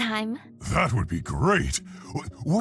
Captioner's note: voiceover